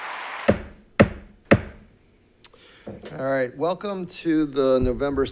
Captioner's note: gavel bangs